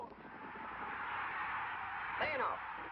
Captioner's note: applause